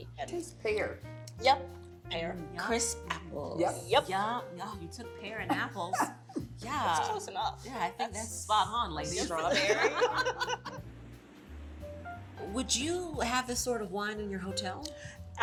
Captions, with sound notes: I taste pear. - Yep! Pear. - Crisp apples. - Yeah! - You took pear and apples. - That's close enough. - Yeah. I think that's spot on ladies. - Strawberry. - [LAUGHTER] Would you have this sort of wine in your hotel?